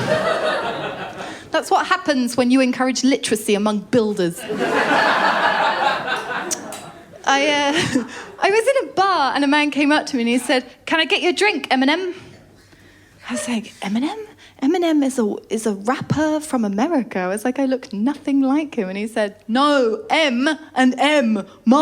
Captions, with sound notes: [LAUGHTER] That’s what happens when you encourage literacy among builders. [LAUGHTER] I was in a bar and a man came up to me and he said, “Can I get you a drink, Eminem?" I said, “Eminem?” Eminem is a rapper from America. I was like, I look nothing like him. And he said, “No, M and M."